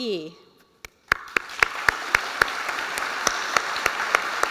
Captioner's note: applause